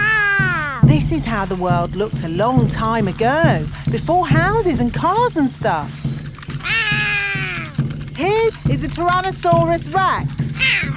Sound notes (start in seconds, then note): 6.7 roaring